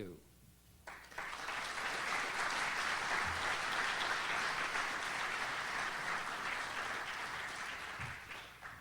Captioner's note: audience applauds